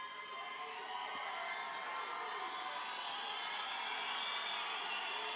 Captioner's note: applause sustains